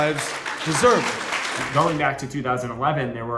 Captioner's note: audience clapping